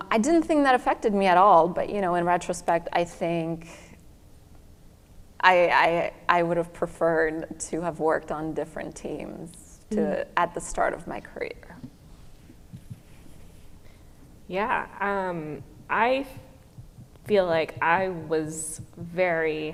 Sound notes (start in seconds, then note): none